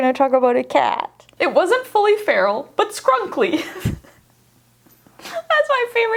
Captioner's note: laughs